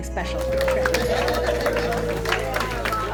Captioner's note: cheering